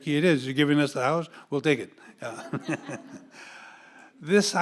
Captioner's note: audience laughing